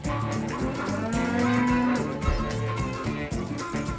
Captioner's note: cattle moo